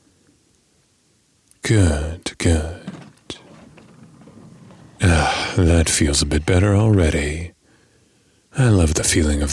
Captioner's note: door sound